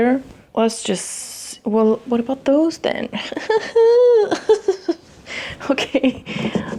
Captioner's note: groaning and laughing